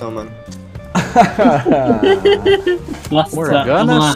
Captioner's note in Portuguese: risos